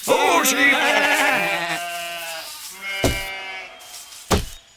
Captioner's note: sheep bleats